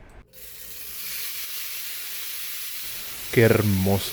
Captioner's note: amazing sizzling noises